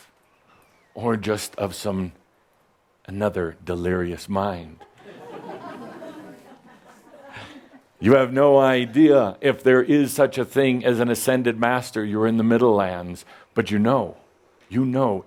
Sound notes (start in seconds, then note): 5.6 some chuckles